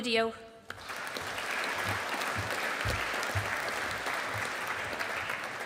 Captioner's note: audience applauding